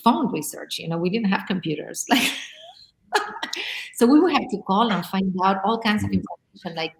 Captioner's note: laughs